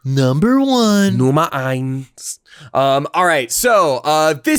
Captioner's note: speaks in German